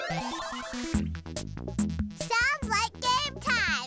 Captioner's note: electronic bleeping